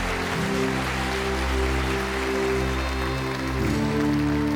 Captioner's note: applauding and cheering